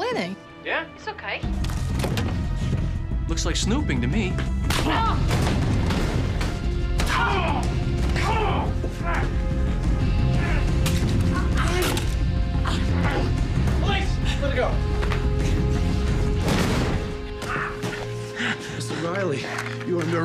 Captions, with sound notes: -Yeah? -It's okay. -Looks like snooping to me. -Oh! -[ Grunts ] [ Grunting ] -Police! Let her go. -[ Groans ] -Mr. Riley, you are under arrest.